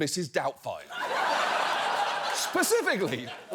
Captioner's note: audience laughs